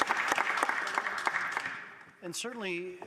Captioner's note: some Applause; applause